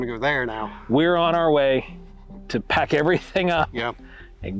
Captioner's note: laughs